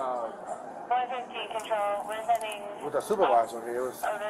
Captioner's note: radio chatter; radio chatter